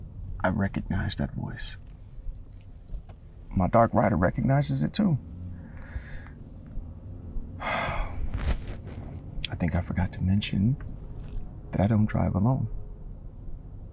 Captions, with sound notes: i recognize that voice. My Dark Rider recognizes it too. [sighs] I think i forgot to mention, that I don't drive alone.